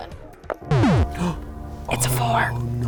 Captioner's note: solemn music; man gasps